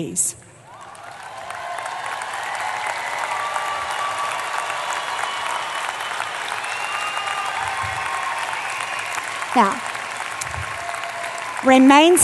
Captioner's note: applause